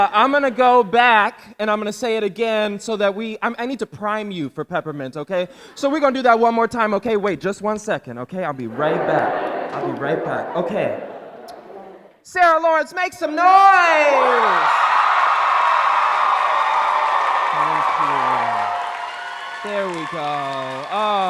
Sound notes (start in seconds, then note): 13.5 crowd cheering